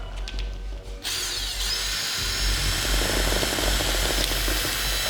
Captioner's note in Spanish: Zumbido del taladro